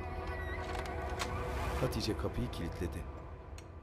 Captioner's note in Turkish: Kapı kilitlenme sesi